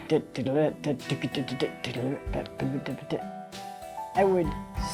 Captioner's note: makes drumming noises